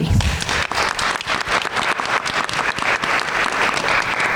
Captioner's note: everyone applauds